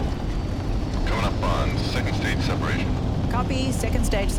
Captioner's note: Joe Over Radio